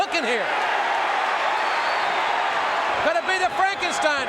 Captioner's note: audience cheering